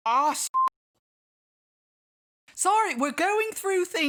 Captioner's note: none